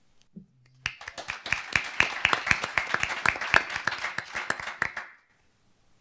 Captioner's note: applause